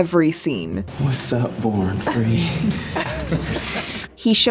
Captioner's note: Sun chuckles